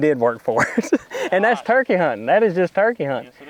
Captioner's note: laughs